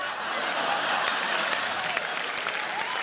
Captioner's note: laughter